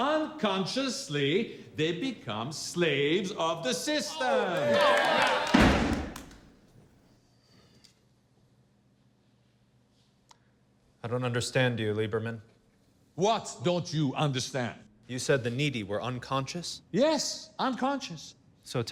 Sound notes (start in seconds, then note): 4.0 group applauding; 5.6 Adolf hammers